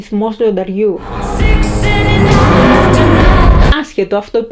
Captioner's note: car engine